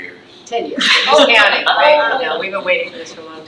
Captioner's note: trustees laughs